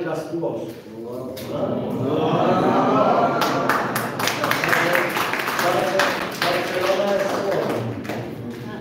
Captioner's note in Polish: Głosy podziwu z sali, brawa